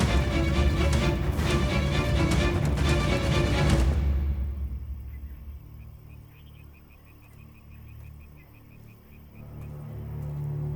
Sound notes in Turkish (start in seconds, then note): 0.0 Müzik - Gerilim; 1.3 At nalı sesi; 10.5 Müzik - Gerilim